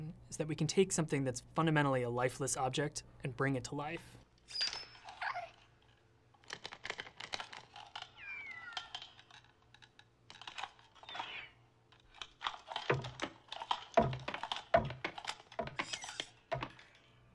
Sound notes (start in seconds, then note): 4.5 electronic squeaking; 6.4 lampshade rattling; 8.2 metallic whining; 11.1 metallic sighing; 12.8 wooden thudding